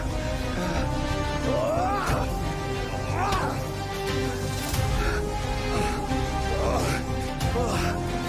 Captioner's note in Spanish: Jadeos y exclamaciones